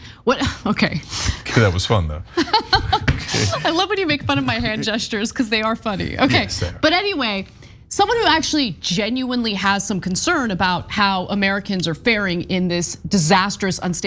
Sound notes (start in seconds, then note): 2.3 laugh